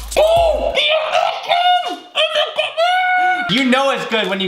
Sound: muffled talking with mouth full

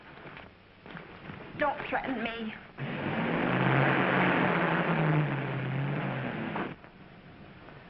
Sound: car accelerating

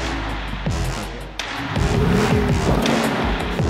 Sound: car engine

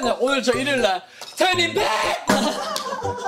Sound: voice crack

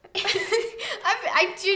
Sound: laughs

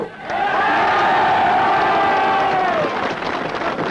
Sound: crowd cheers

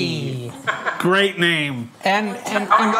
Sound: laughs

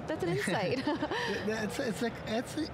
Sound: laughing

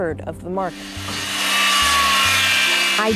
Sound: saw buzzing

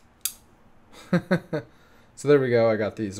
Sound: laughs

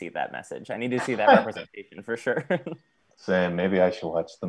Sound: laughing

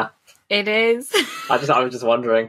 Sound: laughs

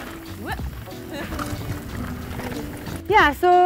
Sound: laughing

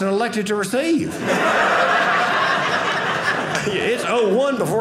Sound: audience laughing

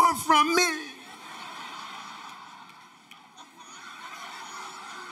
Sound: audience laughter

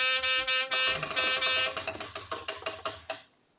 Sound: honking; wheel ticking

